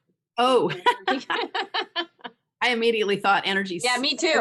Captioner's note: laughs